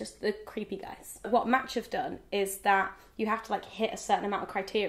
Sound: none

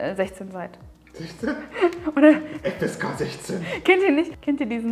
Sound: laughing

